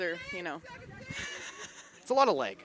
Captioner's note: chuckles